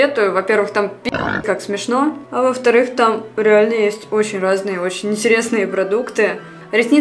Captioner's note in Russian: хрю